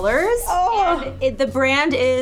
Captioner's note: groans